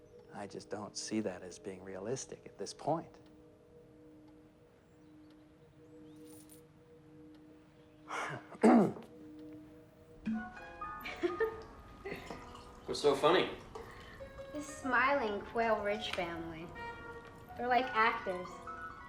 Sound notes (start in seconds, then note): 8.1 clears throat; 12.0 laughs